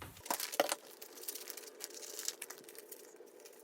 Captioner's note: paper rustling